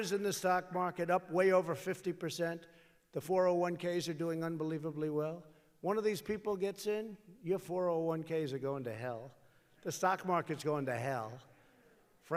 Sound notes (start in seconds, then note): none